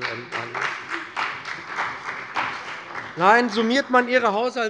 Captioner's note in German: Beifall bei der CDU und dem BÜNDNIS 90/DIE GRÜNEN